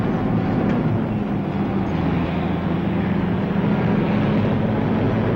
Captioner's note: engine whirring continues